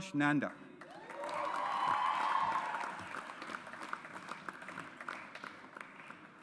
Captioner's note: audience applauds